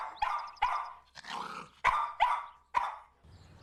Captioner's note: dog barking